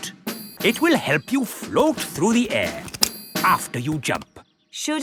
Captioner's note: clicking